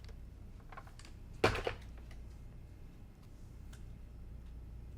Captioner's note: iron box thudding